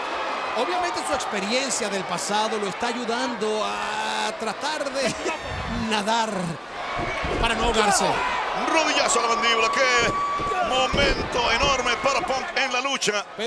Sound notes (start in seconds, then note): 4.9 laugh